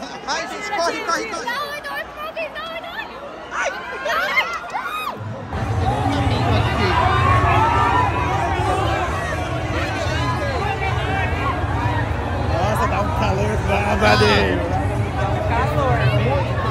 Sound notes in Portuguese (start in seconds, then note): 4.7 gritos ao fundo